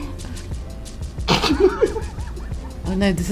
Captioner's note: snickers